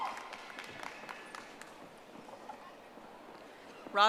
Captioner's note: audience applauding